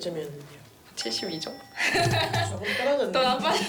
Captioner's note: laughing and crying over health